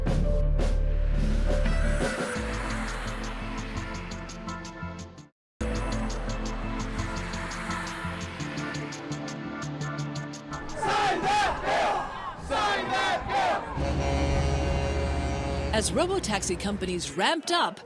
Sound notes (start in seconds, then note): 13.3 crowd chanting; 13.7 truck horns blaring